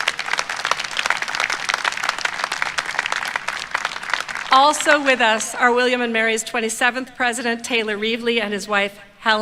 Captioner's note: applause